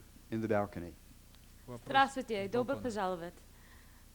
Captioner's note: non-english speech